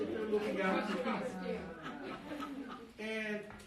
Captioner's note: audience laughing